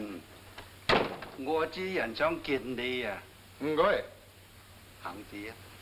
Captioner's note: speaking in foreign language